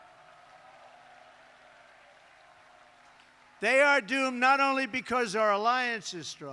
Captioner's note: applause